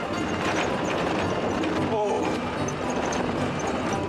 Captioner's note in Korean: 덜컹 덜컹